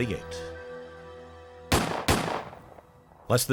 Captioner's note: gunshots